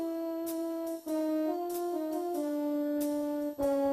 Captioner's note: none